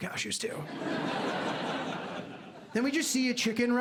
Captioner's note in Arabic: ضحك